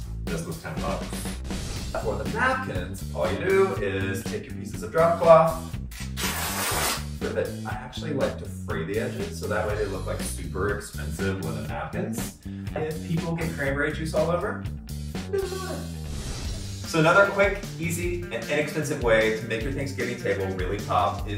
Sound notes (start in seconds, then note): 6.0 ripping